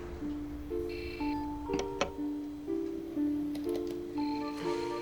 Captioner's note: modem buzzing